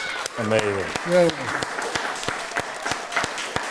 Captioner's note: cheering and Applause